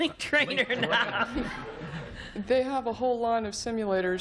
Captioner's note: laughing